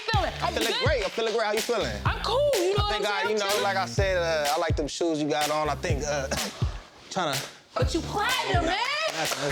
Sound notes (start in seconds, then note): 6.2 coughs; 8.3 claps